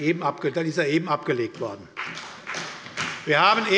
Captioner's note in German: Beifall bei der SPD und der FDP